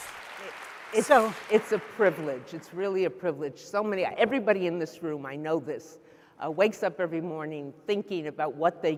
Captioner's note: applause